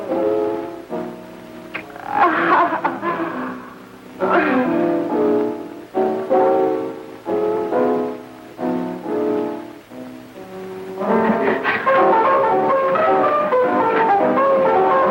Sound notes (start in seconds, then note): 1.8 laughing; 12.1 upbeat piano music